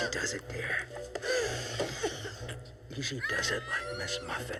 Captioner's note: screeching